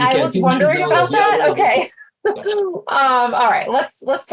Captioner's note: laughter